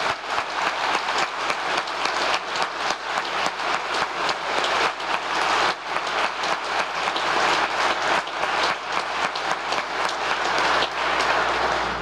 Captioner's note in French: applause